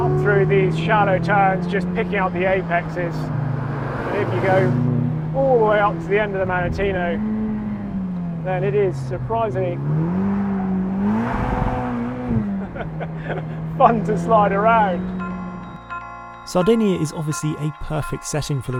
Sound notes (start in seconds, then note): 9.9 car engine revving; 9.9 tires squealing; 12.5 laughing